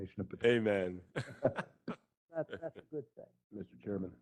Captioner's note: laugh